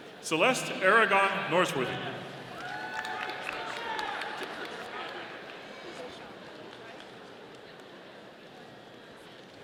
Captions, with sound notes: Celeste Aragon Norsworthy. (audience applauding)